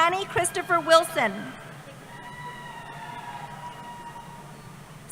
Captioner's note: cheering